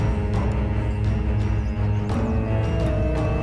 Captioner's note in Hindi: none